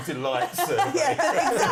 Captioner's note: laughter